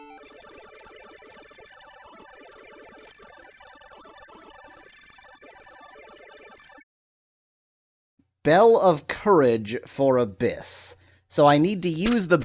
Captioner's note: awkward silence